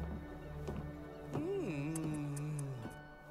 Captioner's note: he makes kissing sounds